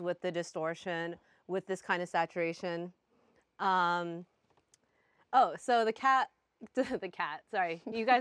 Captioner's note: laughs